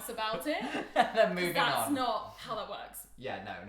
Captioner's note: laughing